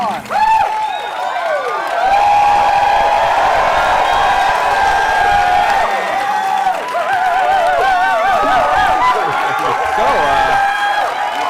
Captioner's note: cheering